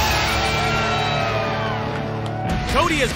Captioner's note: cheering